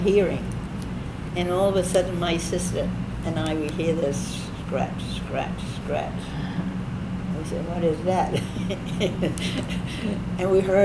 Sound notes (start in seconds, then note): 5.1 scatch Scratch Scratch; 8.3 laughs